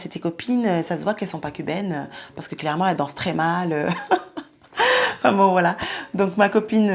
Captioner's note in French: rires